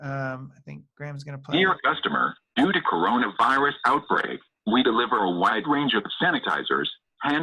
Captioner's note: clip begins. robotic voice